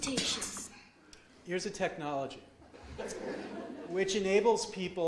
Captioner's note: audience laughs